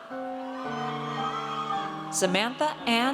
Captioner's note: audience cheers